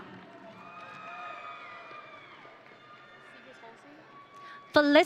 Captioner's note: audience cheering